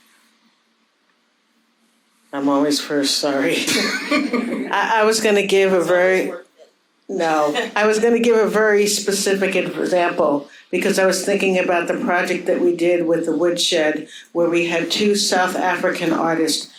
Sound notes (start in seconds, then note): 3.7 audience laughing